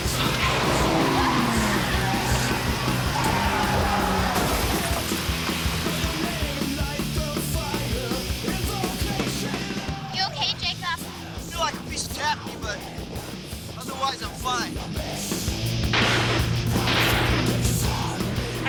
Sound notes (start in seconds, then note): 5.0 car crashing; 7.1 intense rock music; 16.0 gunshots popping; 16.0 intense rock music